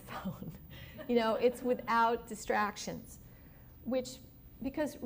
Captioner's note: laughter